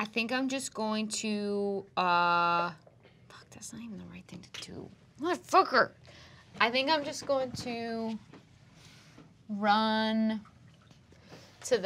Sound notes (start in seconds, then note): none